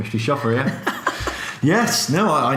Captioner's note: laughs